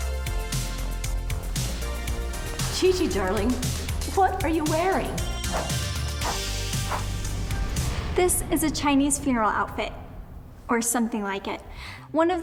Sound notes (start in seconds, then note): 5.5 dramatic upbeat music; 6.8 screen whooshes